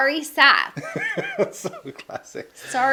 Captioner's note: laughing